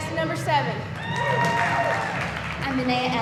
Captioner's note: audience cheering